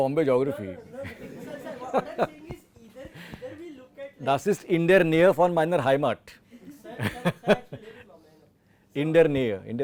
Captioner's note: laughs